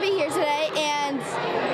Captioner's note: notes:00:28:26:37 nat sound of kids